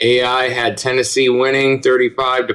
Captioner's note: none